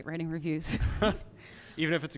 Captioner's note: laughter